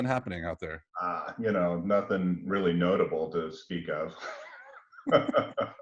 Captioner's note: laughs